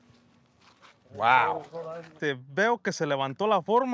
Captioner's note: pat